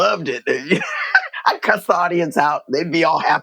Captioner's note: laughter